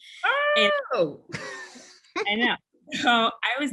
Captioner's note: laugh